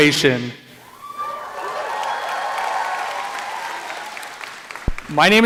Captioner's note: cheering